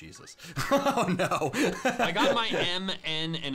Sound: laughs

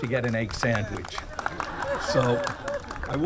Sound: audience laughing

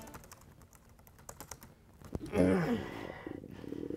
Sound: stomach growl

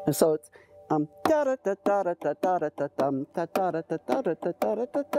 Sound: vocalizes percussion

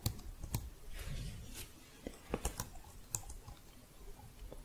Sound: shuffling, then typing

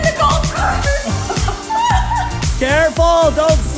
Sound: laughter

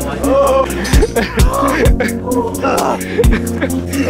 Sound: laughing

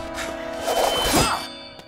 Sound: grunting

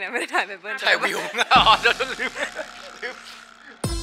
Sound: laugh

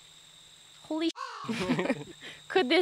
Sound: laughter

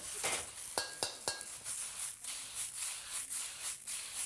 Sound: pan sizzling

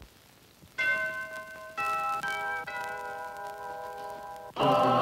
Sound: doorbell rings

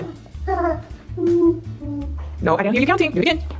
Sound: laughs

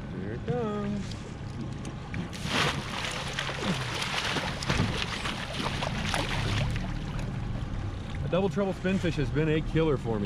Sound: fish splashing

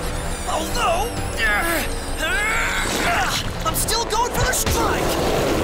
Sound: grunts; fighting impacts and grunting

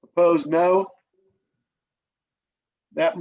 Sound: silence

